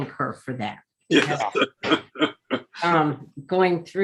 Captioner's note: laughing